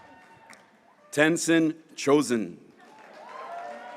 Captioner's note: graduates cheering